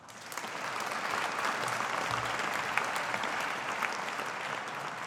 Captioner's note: audience applauding